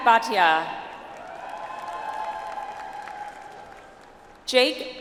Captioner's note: audience applauds